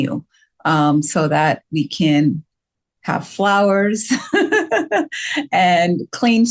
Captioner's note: laughs